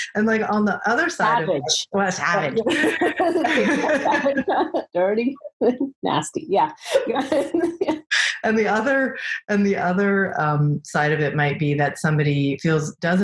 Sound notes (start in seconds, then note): 2.4 both laughing